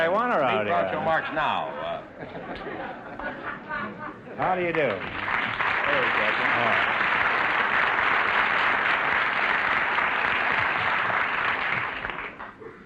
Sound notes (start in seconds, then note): 2.1 audience laughter; 6.8 applause